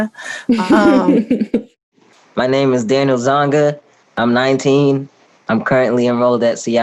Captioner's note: chuckles